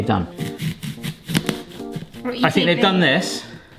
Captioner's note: apple crunching